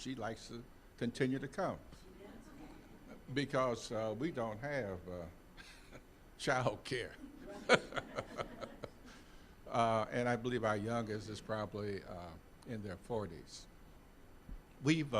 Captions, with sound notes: SHE LIKES TO CONTINUE TO COME. (audience chuckling) BECAUSE WE DON'T HAVE CHILDCARE. (all laughing) AND I BELIEVE OUR YOUNGEST IS PROBABLY IN THEIR 40s.